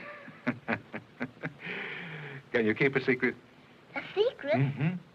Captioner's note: laughing